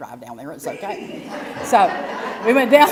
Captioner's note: laugh